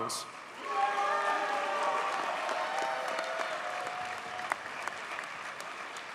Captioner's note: audience cheers and applauds